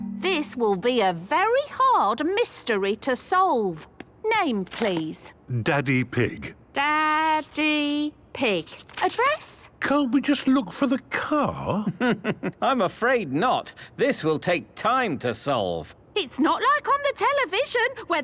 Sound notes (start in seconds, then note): 11.9 chuckling